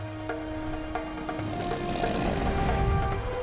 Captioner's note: Appa grunting